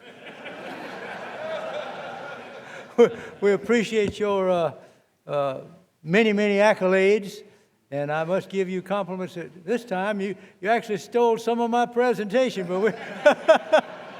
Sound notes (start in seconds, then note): 2.7 laughter